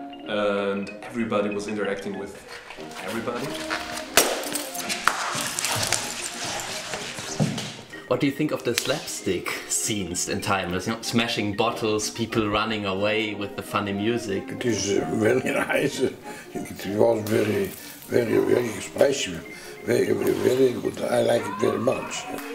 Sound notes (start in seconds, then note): 4.1 glass getting smashed